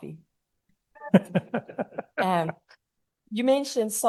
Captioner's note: chuckle